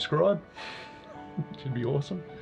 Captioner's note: laughs